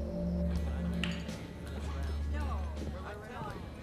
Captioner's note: mixed chatter; clicking of billiard balls